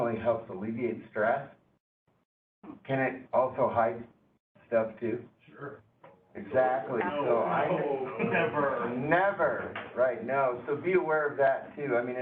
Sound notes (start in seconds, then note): 8.3 mocking disagreement